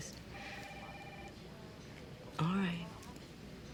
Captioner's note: phone rings